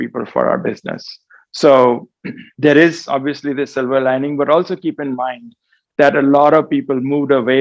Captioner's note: cough